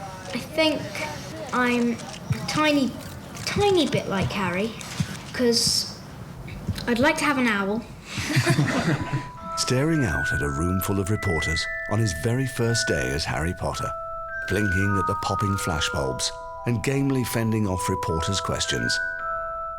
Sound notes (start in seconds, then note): 8.1 people chuckling